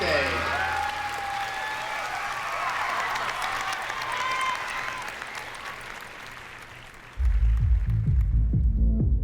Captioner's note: cheering and applause